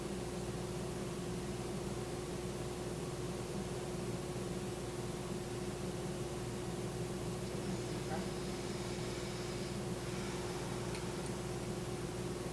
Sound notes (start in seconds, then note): 7.7 blows out air